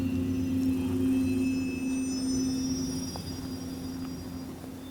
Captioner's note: insects chittering